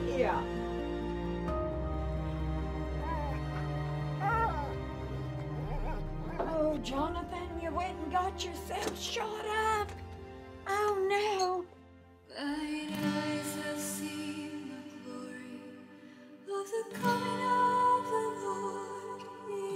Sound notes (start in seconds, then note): 1.2 gentle music; 2.9 Willamina moaning